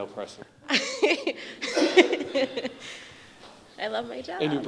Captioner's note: woman laughs